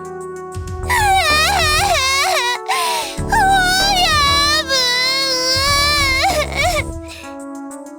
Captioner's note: sob